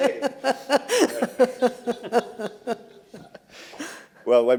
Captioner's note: laughter